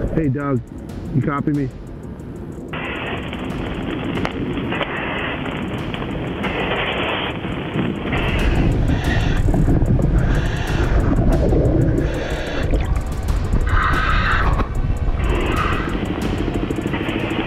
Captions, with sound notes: - Hey, Doug, you copy me? (radio static) (suspenseful music)